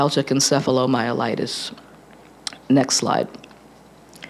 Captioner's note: none